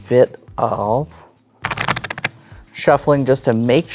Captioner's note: cards riffling